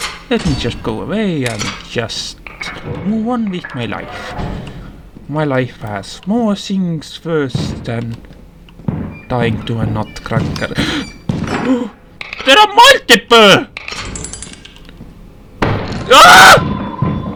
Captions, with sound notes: Let me just go away and just... move on with my life. My life has more things first than... dying to a Nutcracker. [Startled gasp] There are multiple! WHOA!